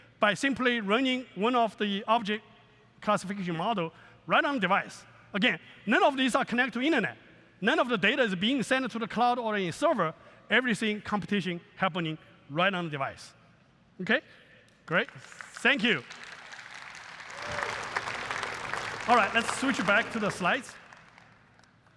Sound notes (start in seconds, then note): 16.6 applause